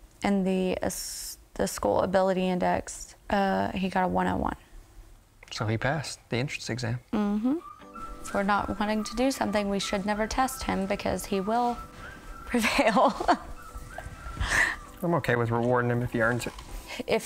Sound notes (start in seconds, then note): 12.5 giggling